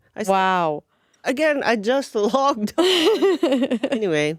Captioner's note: laughing